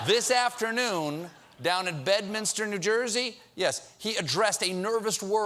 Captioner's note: laughter